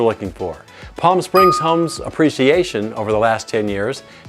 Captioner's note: bell dings